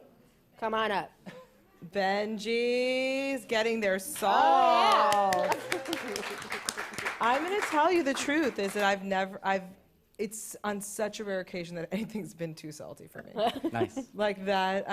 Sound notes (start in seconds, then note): 4.8 applause; 13.4 chuckles